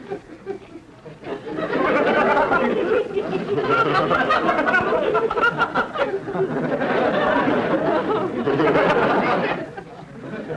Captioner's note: audience laughter